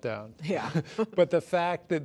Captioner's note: chuckling